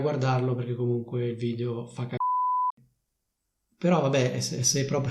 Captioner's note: beep